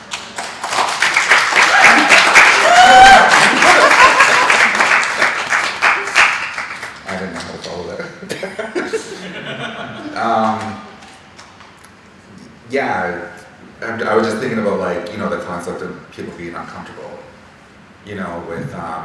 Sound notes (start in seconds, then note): 0.0 audience clapping; 7.4 speaking faintly